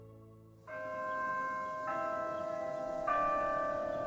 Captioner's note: chiming